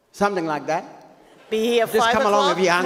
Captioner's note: audience laughs